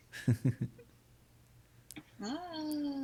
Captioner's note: laughing